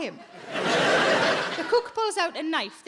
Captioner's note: audience laughing